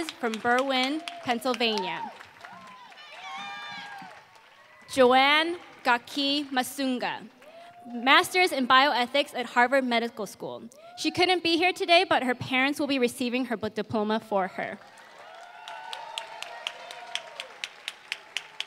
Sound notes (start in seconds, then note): 2.2 applause; 14.7 applause